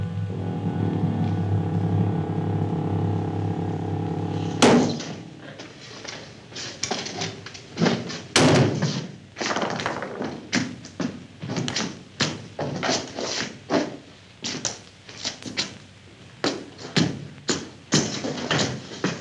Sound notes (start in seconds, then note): 8.4 loud thud